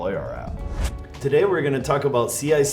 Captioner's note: air woosh